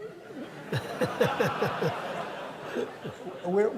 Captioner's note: laughter